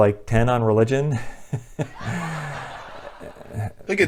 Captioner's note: laughter